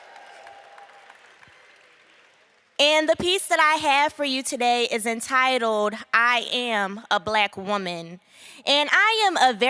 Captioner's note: applause